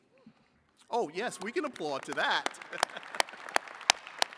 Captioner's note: chuckles; attendees clapping